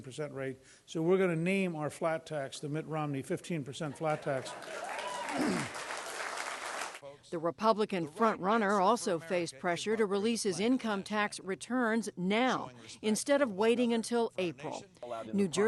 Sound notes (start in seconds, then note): 3.9 laughter; 4.5 cheering and applause